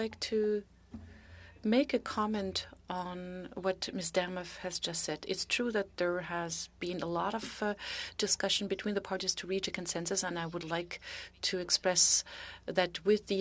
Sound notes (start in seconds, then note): 4.2 speaking French